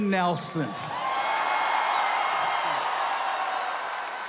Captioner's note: audience cheering